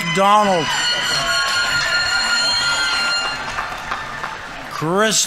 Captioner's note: audience members cheering; audience applauding